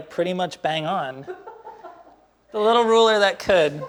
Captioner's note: woman laughs